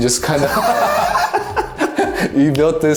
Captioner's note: both laugh